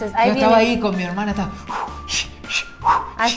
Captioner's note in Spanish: breathing noises